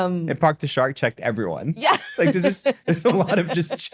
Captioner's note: laughs